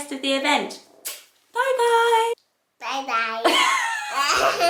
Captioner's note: giggling